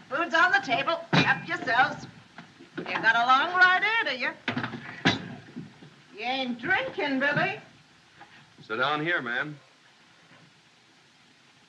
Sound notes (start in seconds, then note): none